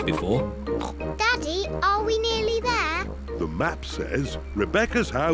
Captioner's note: snorts